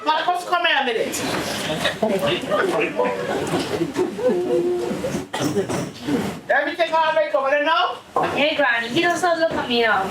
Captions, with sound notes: Now come here a minute. [laughter] Everything all right, over there now? Hey Grimey, you're so little, come here.